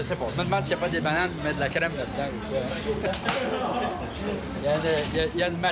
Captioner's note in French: rire